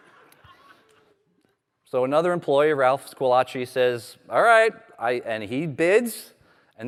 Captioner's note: laughter